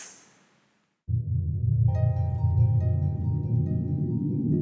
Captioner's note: space humming